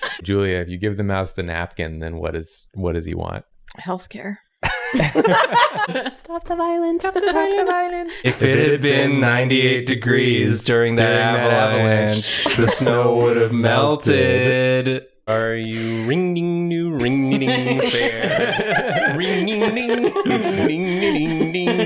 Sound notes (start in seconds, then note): 3.9 voice of a broken woman; 4.6 laughing; 16.9 laughing